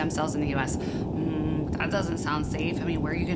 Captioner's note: hums